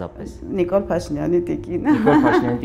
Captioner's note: chuckles